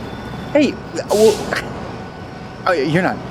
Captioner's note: chuckles